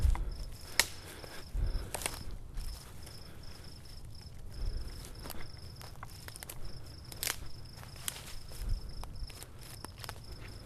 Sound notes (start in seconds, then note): 2.2 staggered breathing; 2.2 underbrush crunching